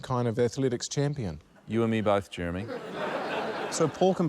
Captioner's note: laughter